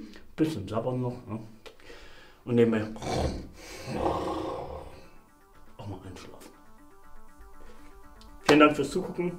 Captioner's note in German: schnarcht